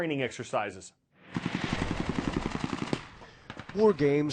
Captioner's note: gunfire